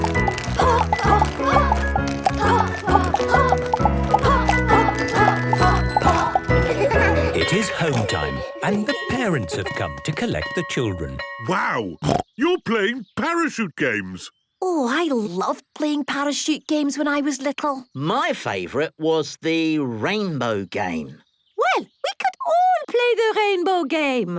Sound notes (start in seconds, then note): 6.6 laughter; 12.0 snorting